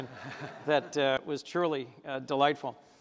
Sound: chuckle; laughter

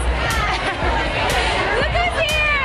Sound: laughing

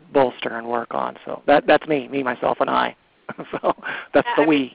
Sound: laughs

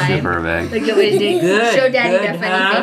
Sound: laughing

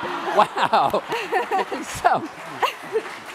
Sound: laughing; applause

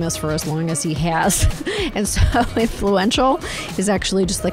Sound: chuckles

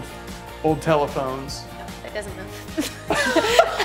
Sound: laughing

